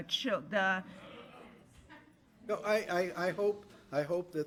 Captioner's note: attendees murmuring